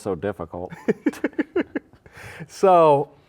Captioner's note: laughs